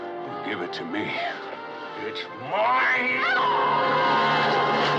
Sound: screams

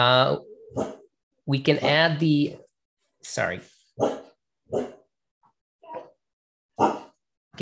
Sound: woof; woof

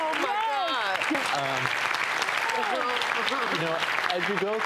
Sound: applauding

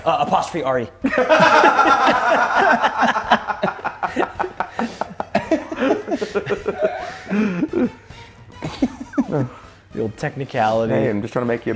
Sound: laugh

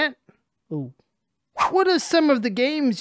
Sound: screen wipe whooshes

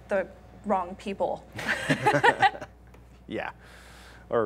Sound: laughter

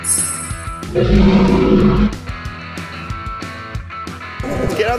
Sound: dinosaur roar

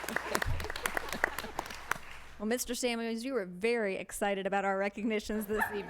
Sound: applause

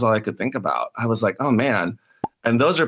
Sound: pop

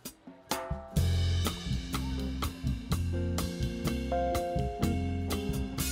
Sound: students cheering; upbeat music

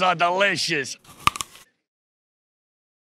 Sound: apple crunching

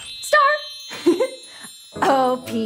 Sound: giggles

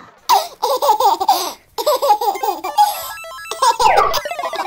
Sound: baby laughing

